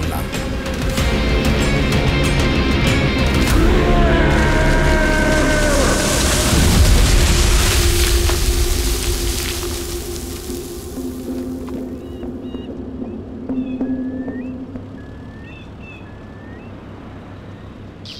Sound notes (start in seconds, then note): 5.0 tree Falling; 14.6 birds Sound